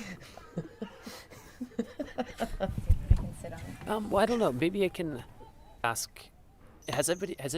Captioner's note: laughs